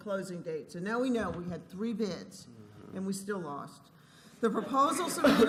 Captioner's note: laughter